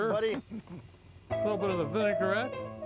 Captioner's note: chuckling